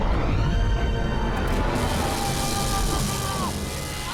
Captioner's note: shout